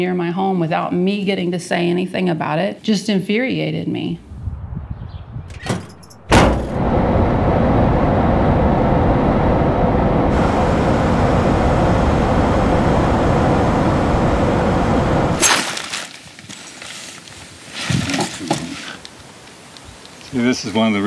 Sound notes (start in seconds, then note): 5.4 car driving along road; 5.5 car door slamming; 15.4 knife slashing wire